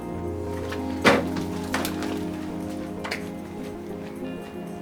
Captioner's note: door slams shut; dramatic electronic music